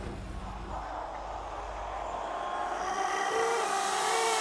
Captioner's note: moans